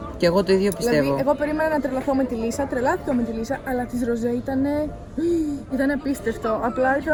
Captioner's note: gasp